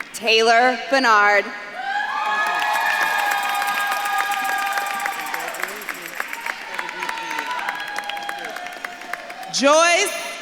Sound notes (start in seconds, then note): 1.7 audience claps and cheers; 7.8 faintly speaks; 8.7 audience claps and cheers